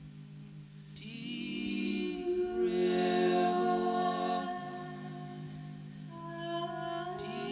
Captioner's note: rhythmic wooing